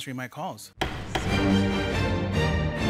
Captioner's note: gavel pounding; dramatic music